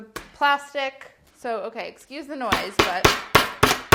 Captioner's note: pounding